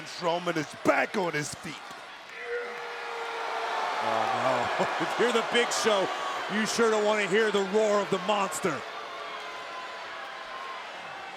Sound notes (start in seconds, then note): 2.7 Braun roars